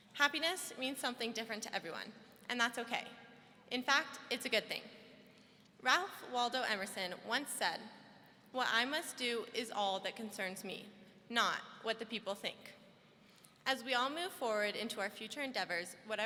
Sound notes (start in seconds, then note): none